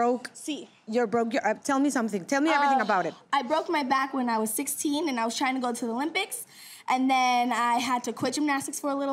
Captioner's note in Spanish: Hablan en inglés